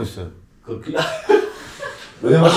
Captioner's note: panicking